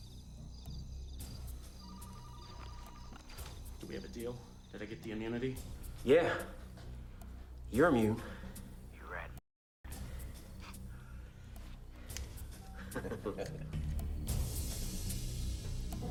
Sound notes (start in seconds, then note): 0.1 suspenseful music; 1.8 phone ringing; 12.7 Gammon chuckles